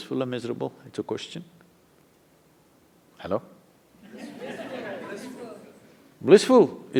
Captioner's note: laughter